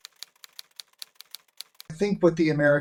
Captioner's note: letters lightly clicking